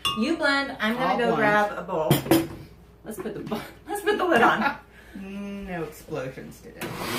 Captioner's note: laughter